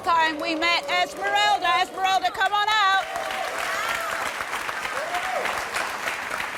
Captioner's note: applause